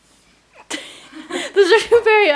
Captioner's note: laughing